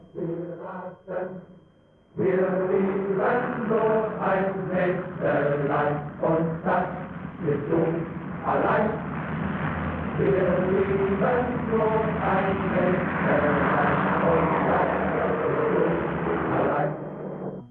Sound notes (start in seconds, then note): 0.2 germans singing; 9.9 plane engines roaring